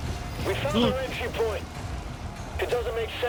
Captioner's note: Gasps at the awe of King Novik